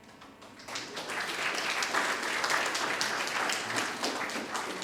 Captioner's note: audience applauding